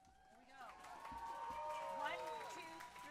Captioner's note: audience applauding and cheering